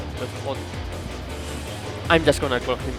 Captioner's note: inhale and exhale